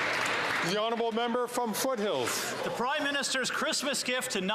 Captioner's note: applause